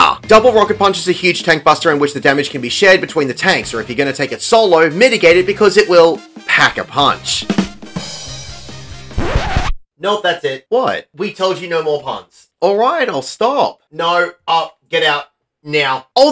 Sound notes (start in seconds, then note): 9.1 record scratch